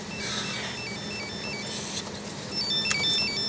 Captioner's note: phone ringing